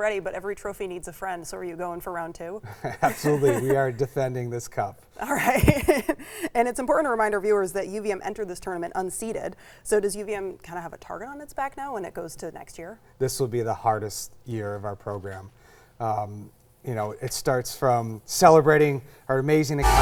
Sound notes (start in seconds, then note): 2.8 both laughing; 6.0 laughs